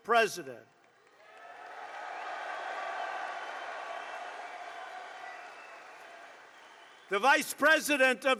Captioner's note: applause